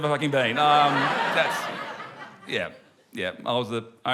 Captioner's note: laughter